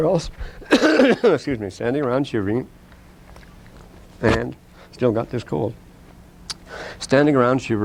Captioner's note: coughs